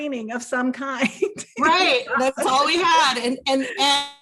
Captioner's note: laughs